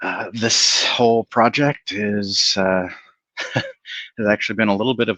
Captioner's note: chuckles